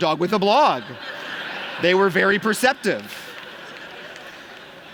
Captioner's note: laughter